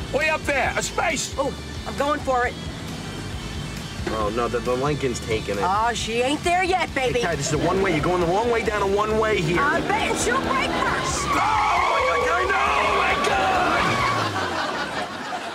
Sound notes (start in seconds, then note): 11.2 man screaming